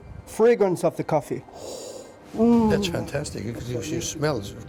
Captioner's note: sound of smelling